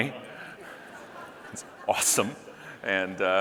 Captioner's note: audience laughing